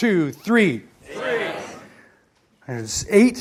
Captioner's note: audience shouts